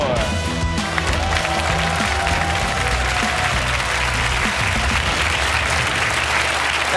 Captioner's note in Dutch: applaus en gejuich